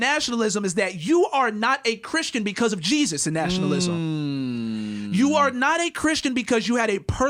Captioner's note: mmmm